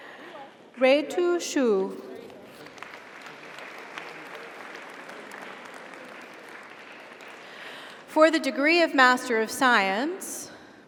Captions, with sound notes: Ruitu Xu. (audience applauds) (audience cheers) For the Degree of Master of Science.